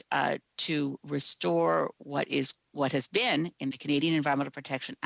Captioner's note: speaking French